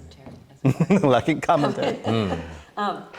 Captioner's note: laughs